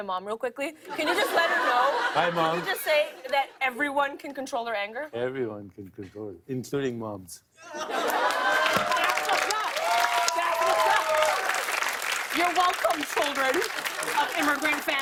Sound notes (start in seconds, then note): 7.6 laughter; 7.8 cheers and applause